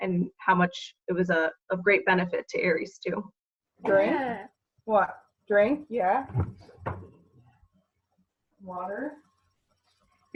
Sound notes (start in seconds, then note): 3.9 vocalizes